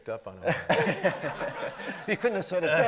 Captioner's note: everybody laughing